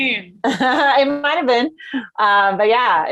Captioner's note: chuckling